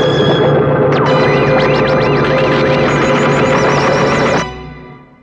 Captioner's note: beeping